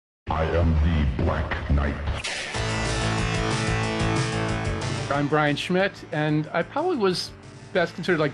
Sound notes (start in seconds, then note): 2.2 exhilarating music; 2.3 thunder cracks